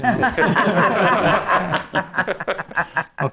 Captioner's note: laughing